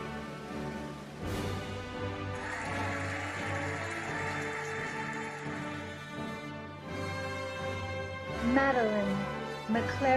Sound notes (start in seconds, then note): 2.2 cheering and applauding